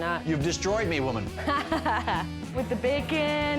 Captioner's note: laughs